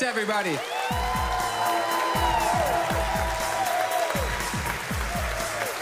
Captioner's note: audience cheering loudly; cheering continues